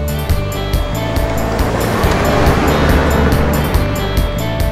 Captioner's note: Car speeding